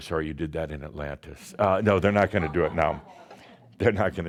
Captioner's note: a few chuckles